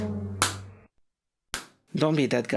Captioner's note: head slap